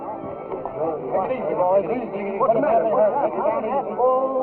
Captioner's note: chattering